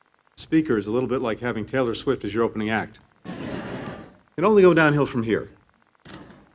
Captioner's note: laughter